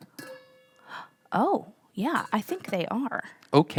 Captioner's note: gasps